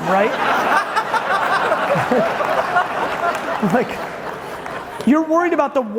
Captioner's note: audience laughing loudly